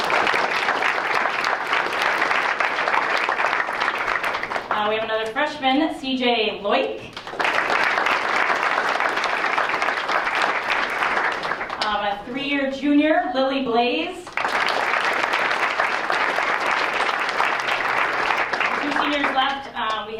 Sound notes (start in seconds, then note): 0.0 applause; 7.0 applause; 14.2 applause